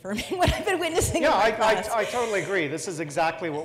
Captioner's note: laugh